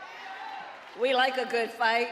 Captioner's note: applause; cheering